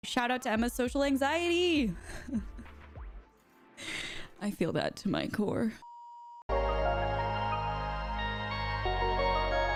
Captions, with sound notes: Shout out to Emma's social anxiety. (laughs) I feel that to my core. (bright music)